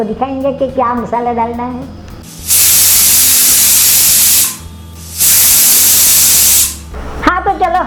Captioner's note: four whistles